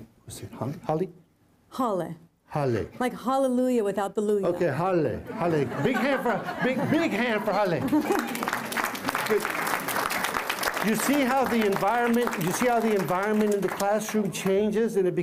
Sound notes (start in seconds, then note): 7.6 applause